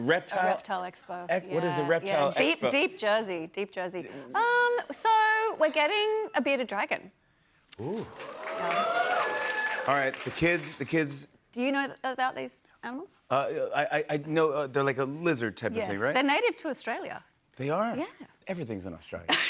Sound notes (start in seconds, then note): 7.8 applause